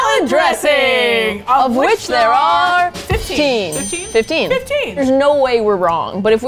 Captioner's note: ding